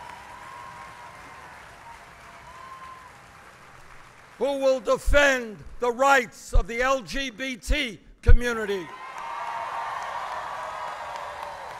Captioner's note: applause